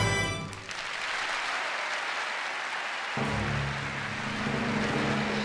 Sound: audience Clapping

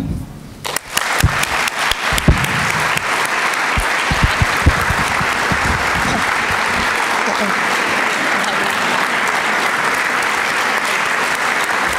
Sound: applause

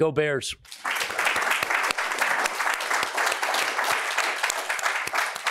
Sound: audience clapping

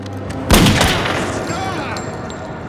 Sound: yells

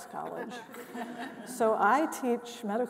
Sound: panelists laughing

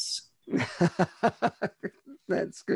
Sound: laughs

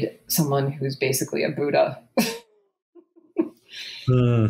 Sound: laughs

